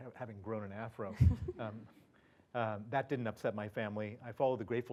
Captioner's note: laugh